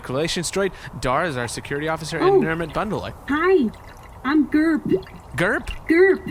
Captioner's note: very cheerfully